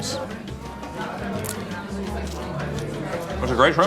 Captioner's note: patrons chattering